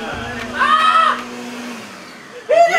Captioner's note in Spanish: grita